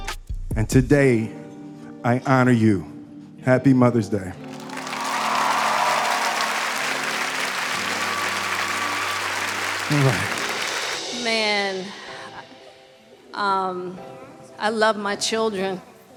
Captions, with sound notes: And today, I honor you. Happy Mother's Day. (audience cheering) (audience applauding) - Man, (tranquil ambient music) I love my children.